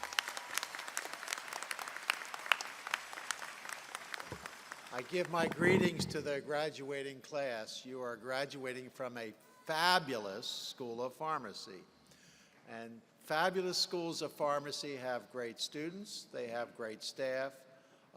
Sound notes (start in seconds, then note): 6.1 applause